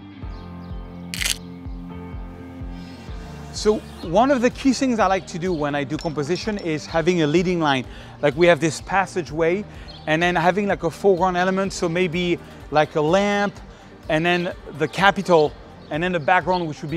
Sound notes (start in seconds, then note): 1.1 camera clicking